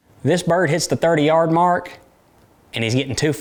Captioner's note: none